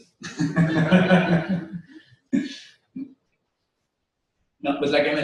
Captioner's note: pause